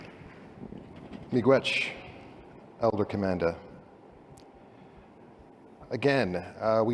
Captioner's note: non-english